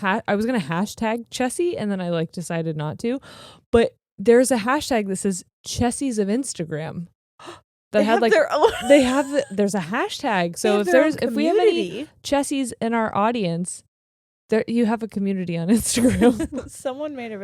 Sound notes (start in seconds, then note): 7.2 gasping; 8.0 laughing; 16.7 laughing